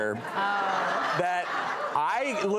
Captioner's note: audience laughter